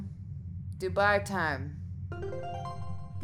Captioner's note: pleasant chime